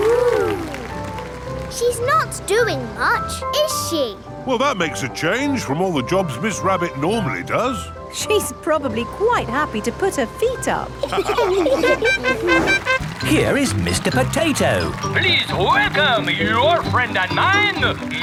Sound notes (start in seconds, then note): 11.0 all laughing; 11.8 horn tooting